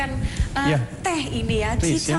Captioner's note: non-english speech